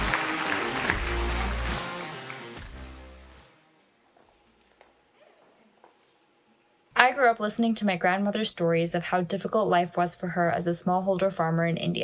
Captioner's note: applause and cheering; applause